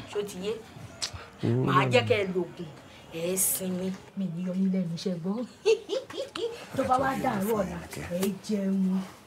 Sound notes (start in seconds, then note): 5.6 woman giggling